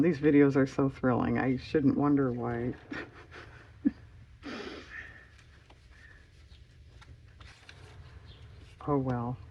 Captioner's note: laughs